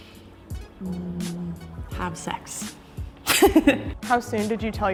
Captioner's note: chuckles